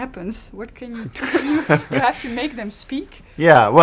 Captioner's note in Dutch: lacht